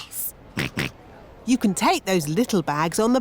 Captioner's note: snorts